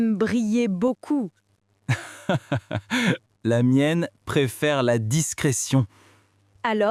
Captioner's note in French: rire